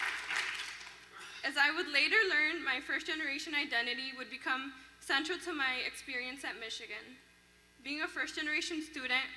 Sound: applause

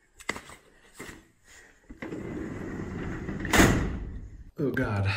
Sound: drawer closes

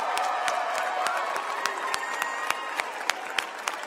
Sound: applause

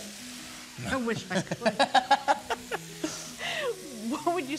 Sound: laughing

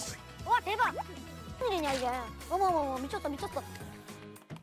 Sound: chomp

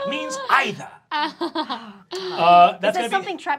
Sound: laughs

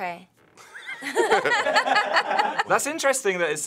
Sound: everyone laughs

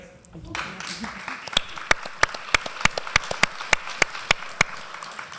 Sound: applause

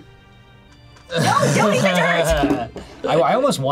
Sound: chuckles

